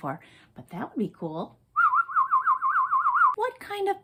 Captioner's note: whistle